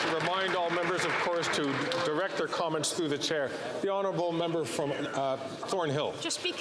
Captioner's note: some Applause